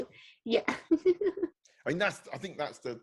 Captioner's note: giggling